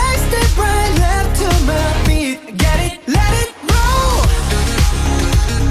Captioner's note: heartbeat